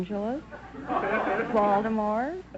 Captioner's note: audience laughter